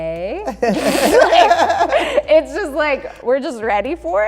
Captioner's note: laughing